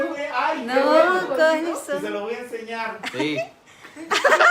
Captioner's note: laughing